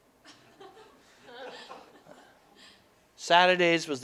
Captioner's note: audience: Laughter